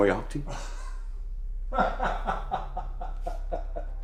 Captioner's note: laughter